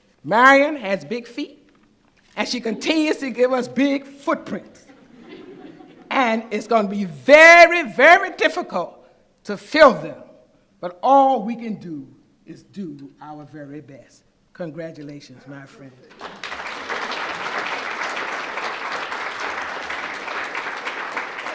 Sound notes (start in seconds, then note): 16.1 applause